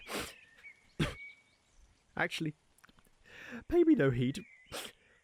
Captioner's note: sniffles, coughs; sniffles